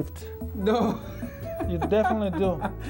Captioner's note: laughs